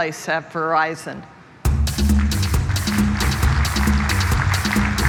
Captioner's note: applause